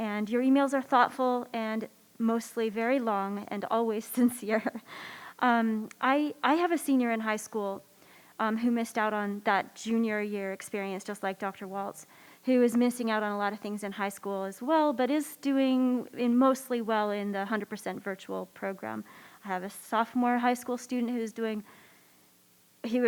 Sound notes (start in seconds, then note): 5.2 laughs